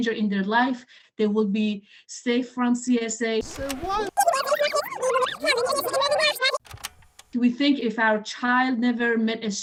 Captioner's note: rewind noise